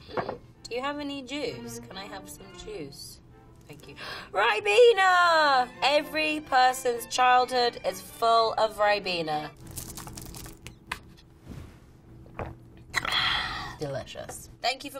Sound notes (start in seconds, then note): 12.3 slurping